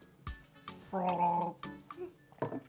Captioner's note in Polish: chrząk